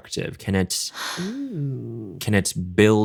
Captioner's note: gasps